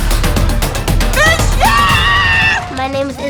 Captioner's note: fans cheering